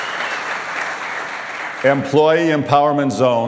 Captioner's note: applause